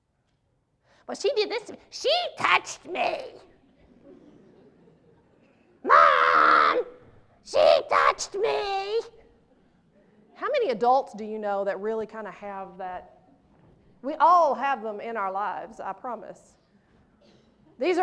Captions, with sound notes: Well she did this and she touched me! (laughter) Mom! She touched me! How many adults do you know that really kinda have that? We all have 'em in our lives, I promise.